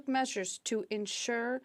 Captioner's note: speaking French